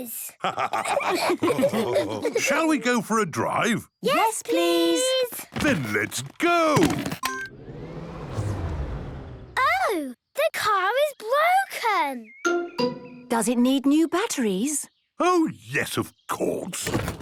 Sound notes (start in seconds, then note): 0.4 all laughing; 7.2 car chimes; 7.4 whirring, whirring stops